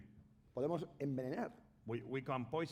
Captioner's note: speaking spanish